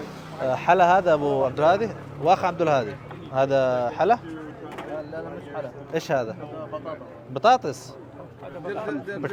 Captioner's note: Arabic